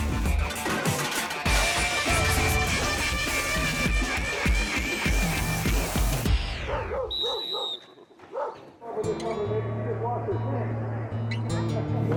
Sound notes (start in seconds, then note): 0.0 upbeat music; 6.6 dog barking; 10.2 soft music